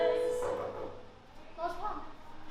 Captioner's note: knock on door